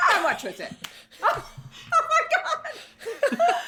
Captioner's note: laughs